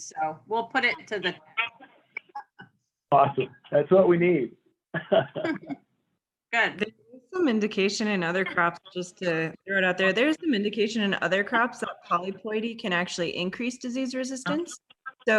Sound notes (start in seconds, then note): 4.9 both chuckling